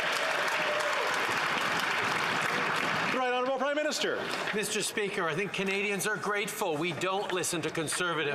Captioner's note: some Applause